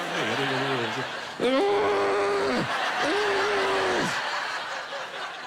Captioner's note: grunting